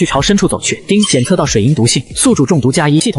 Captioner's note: ding!